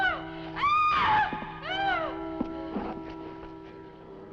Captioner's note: screams; clock chiming